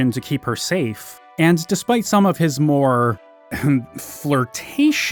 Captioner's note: clears throat